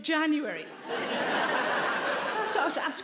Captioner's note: audience laughing